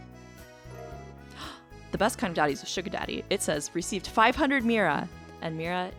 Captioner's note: gasp